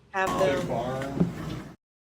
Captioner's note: audio interruption